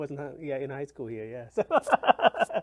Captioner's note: laughs